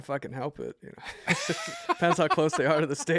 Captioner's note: laughter